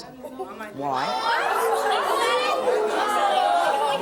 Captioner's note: shouts